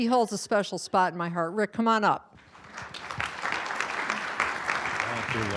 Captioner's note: audience applauding